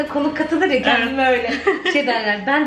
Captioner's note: laughing